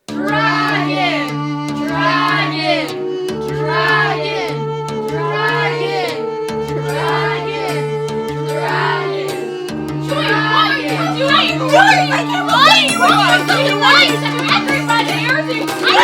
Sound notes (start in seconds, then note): 0.6 chanting; 10.8 yelling